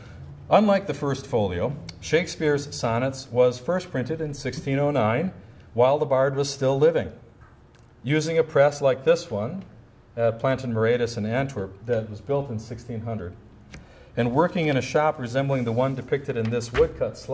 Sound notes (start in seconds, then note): none